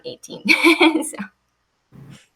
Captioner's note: chuckles